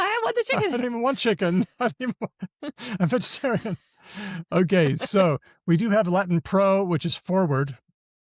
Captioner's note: laughs